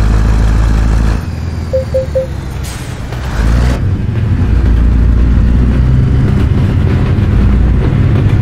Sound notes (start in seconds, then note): 1.7 warning sound because I exit from speed limit